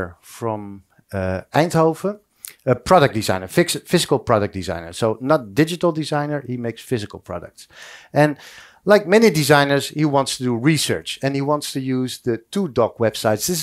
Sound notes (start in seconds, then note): none